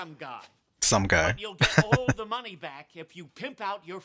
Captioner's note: chuckling